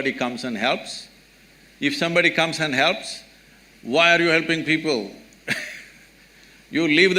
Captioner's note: laughs